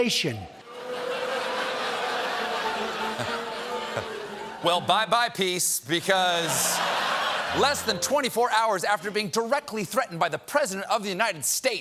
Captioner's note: audience reacts